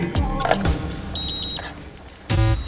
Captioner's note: beep beep beep